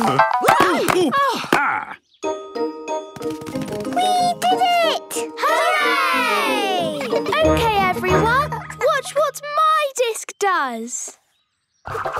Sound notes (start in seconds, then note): 0.2 exclamations; 7.0 laughter